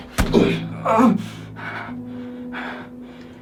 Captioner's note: grunting